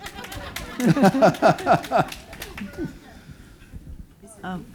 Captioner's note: audience laughing